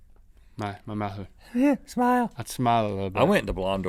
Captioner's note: high voice